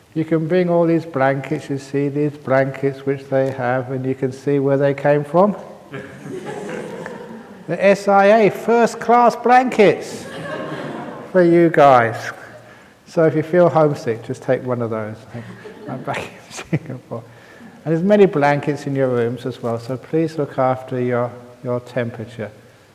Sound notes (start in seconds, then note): 12.0 laughter; 15.2 laughs